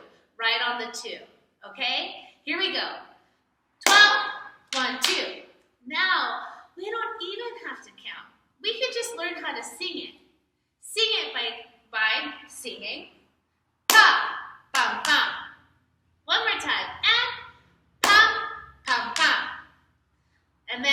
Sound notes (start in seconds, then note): 3.8 clap; 13.9 clap/thigh/thigh; 18.0 clap/thigh/thigh